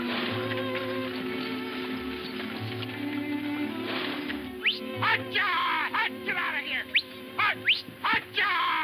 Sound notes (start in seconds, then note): 4.2 man whooping, whistling